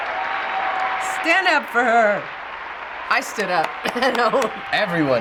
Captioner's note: laughs